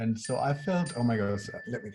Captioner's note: dinging notification